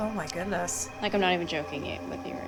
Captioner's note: woman's Voice